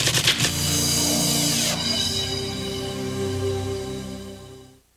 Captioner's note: chimes